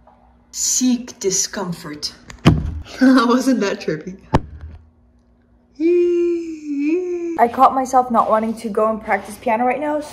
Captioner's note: laughs